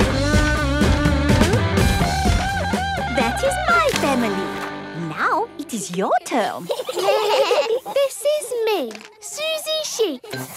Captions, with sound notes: That is my family! Now, it is your turn. (children giggling) - This is me, Suzy Sheep.